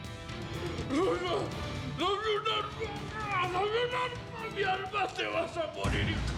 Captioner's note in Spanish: habla entre dientes